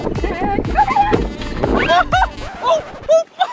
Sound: screams

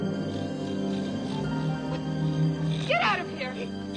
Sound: Kiog snorting

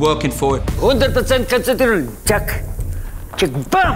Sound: speaking German

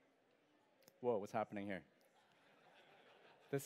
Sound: laughter

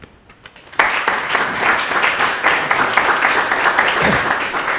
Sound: clapping

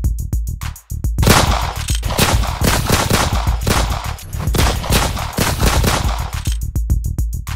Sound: gunshot

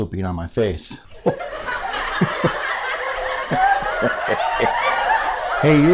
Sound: laughter

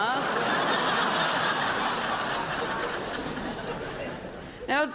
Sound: crowd laughs

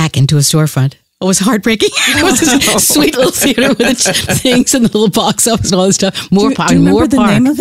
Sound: laughs

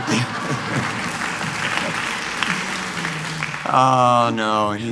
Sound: applause

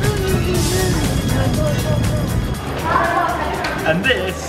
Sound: people murmuring

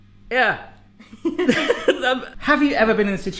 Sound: laughing

